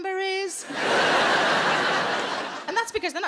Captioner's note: audience laughs